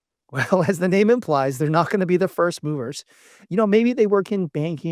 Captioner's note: laughs